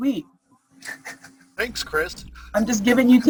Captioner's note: chuckles